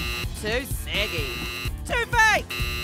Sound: buzzer buzzes

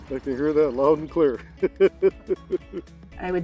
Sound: laughing

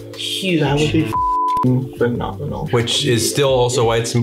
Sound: beeps

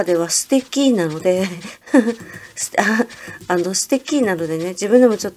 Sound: embarrassed laughter

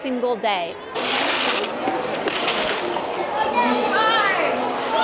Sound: chatter

